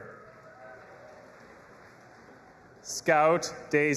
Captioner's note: audience applauding and cheering